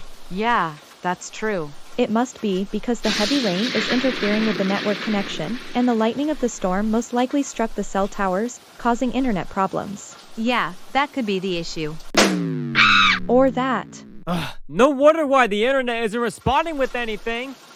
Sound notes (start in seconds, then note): 12.8 screaming